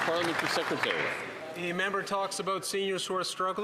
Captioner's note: applause